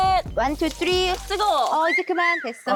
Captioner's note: hands cooking on asphalt sound